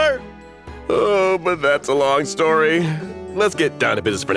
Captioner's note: sighs